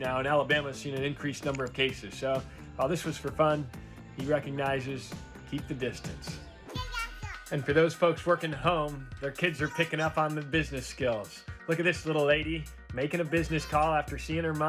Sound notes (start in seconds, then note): 6.7 baby babbling